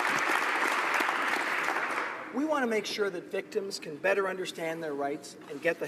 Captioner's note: applause